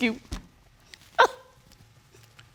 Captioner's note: cries